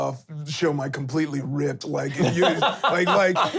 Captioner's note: laughs